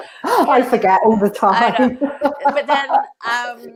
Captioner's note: laughs